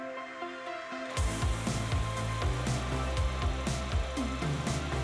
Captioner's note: upbeat music; machine whirring